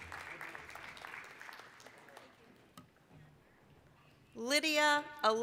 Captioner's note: applause